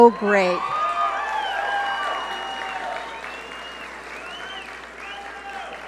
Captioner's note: audience cheer and applaud